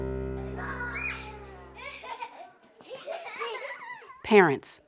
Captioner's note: laughing